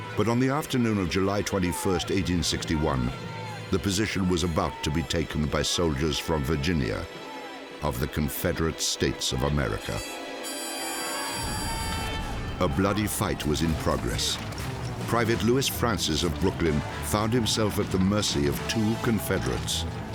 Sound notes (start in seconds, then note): 10.2 soldiers yelling